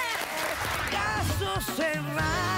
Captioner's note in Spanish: Aplausos